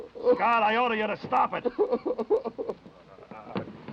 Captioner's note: Danny sobbing